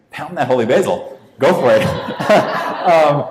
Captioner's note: audience laughs